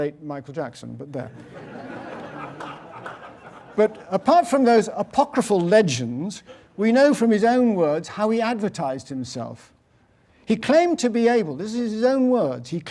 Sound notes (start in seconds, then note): 1.3 laugh; 2.1 applause